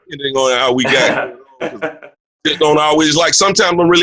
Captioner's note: laughing